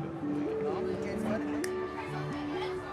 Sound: hubbub

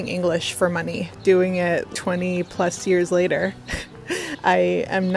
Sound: laughs

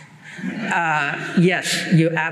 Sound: laughter

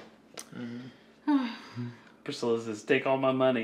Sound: sighing

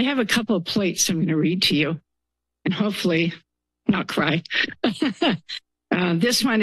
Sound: laughs

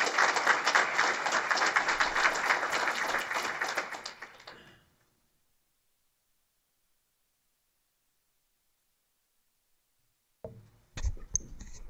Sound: applause

